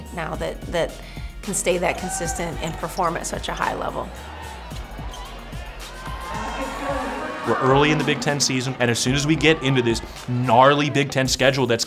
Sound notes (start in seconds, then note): 4.9 crowd cheering; 4.9 upbeat music